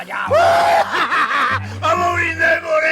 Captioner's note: mocking laughter